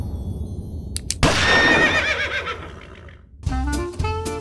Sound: gun cocks; gunshot; horse Neighs

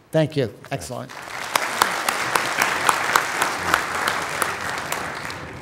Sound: applause

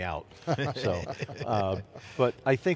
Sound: laughs

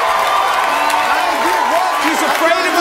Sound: audience cheering

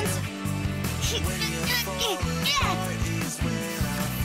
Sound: grunting

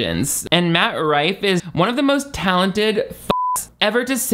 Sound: beeps

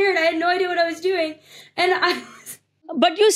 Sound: laughing

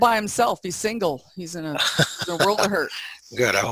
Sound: laughter

